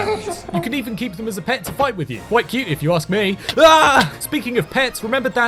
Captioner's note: he screams